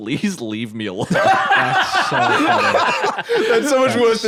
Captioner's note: laughing